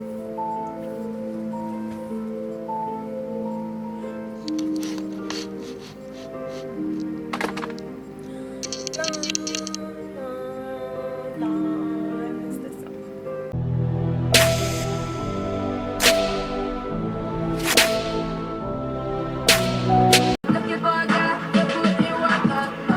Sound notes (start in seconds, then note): 0.0 halloween music plays; 4.5 hums along; 8.8 sings; 13.4 intro music